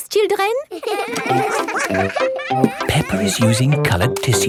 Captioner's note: all giggling